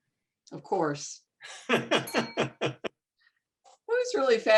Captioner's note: laughing